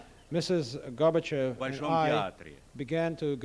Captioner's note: non-english speech